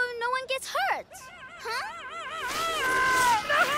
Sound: screaming

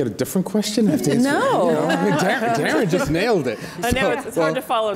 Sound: audience laughs

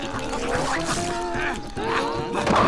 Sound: panting; screaming

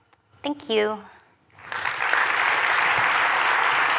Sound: cheers, applause

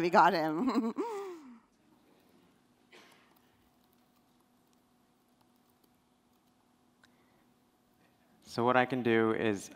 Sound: laughs

